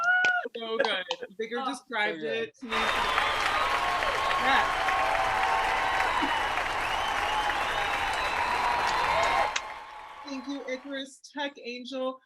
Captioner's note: cheers, applause, chatter